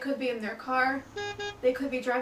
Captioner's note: SFX: car horn beep twice